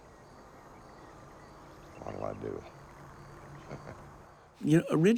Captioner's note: chuckles